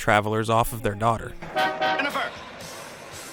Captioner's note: horn Honks